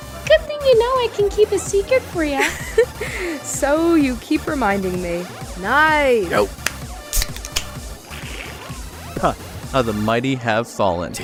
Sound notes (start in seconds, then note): 2.3 laughs